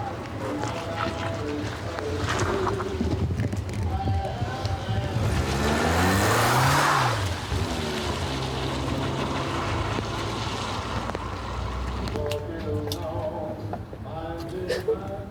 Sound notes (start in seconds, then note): 6.5 enging revving; 12.0 singing; 14.6 sobbing